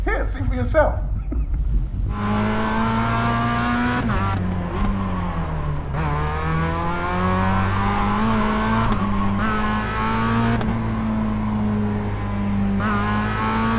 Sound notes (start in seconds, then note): 1.5 engine revving